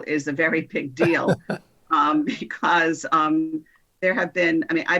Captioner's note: chuckling